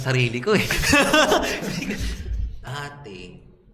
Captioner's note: laughs